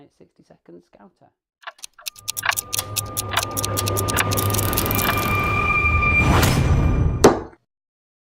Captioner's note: clock ticking